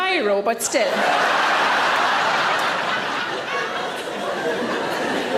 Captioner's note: audience laughs